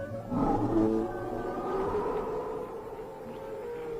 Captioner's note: growling nearby